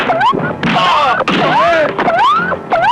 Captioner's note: whacking; crying out; electronic beeping; dramatic music